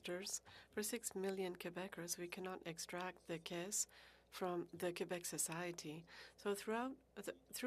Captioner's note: speaking French